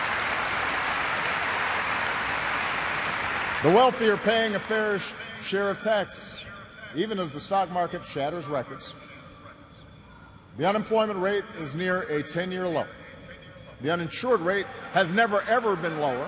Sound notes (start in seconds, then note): 4.9 applause